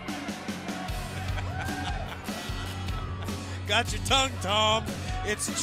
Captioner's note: laughter